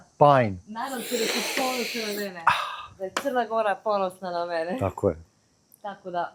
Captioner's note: snort